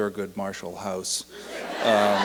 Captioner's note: laughter and applause